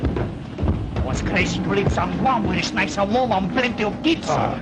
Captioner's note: broken English